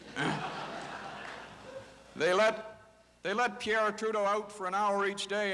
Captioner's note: audience laughter